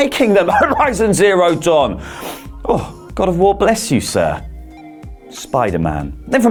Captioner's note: cough